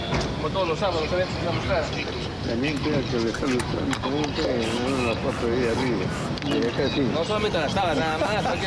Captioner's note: men speaking native language